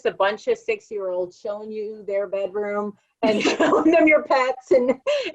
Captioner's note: laugh